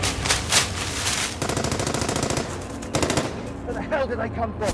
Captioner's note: gunshots blasting